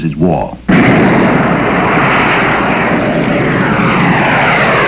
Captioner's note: wind whooshing